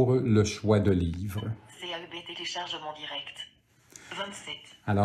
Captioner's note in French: l'appareil émet un bip